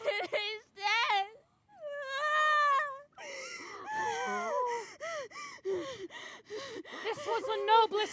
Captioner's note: sobs